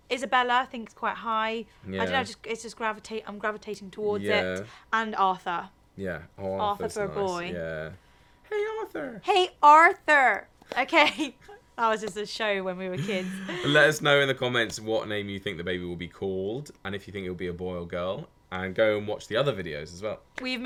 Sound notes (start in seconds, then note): 11.1 laughing